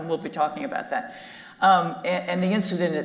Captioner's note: none